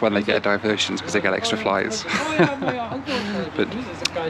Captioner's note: laughs